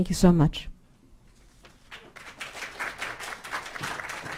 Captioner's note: audience applauding